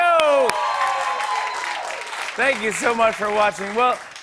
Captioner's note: cheers and applause